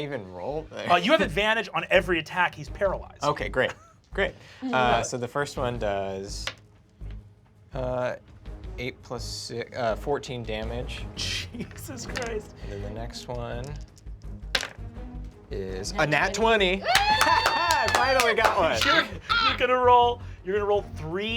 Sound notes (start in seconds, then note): 13.5 rolls dice; 16.7 group applauds and cheers